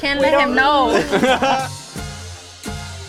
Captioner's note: all laughing; upbeat music